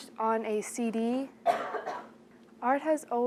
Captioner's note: student coughs